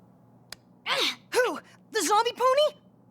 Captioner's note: groans